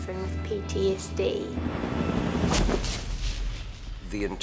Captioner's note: helicopter hovering, stops abruptly